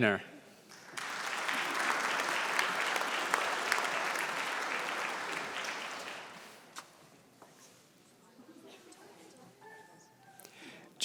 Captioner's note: applause